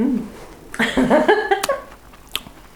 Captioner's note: laughs